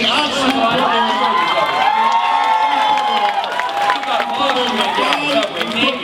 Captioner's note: cheering from audience